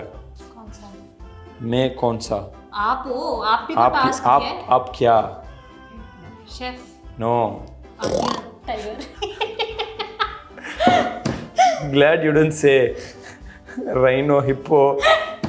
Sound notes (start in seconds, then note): 8.0 roars like tiger